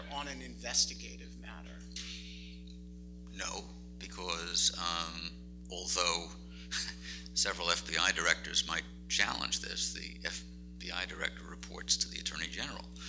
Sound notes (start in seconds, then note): 5.3 laughs